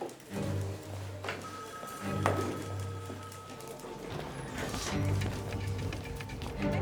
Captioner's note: dramatic music; phone rings